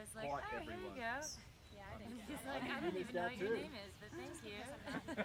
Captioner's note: idle chatting, laughing